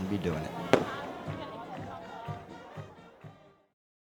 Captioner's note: banging